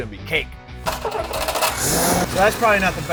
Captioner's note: engine starts